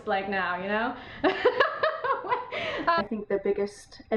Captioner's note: laughing